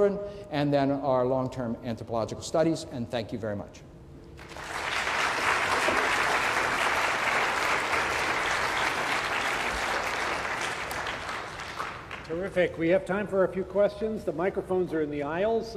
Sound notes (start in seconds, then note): 7.7 applause